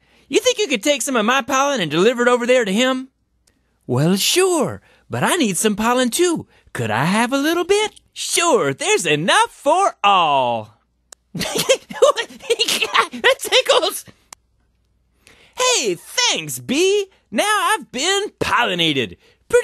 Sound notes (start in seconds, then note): 11.3 laughing starts; 14.1 laughing stops